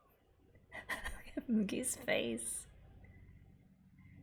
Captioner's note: laughs